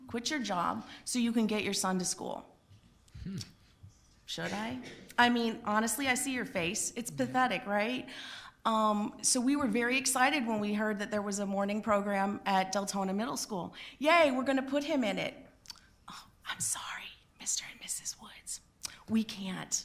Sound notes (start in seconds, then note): 16.5 whispering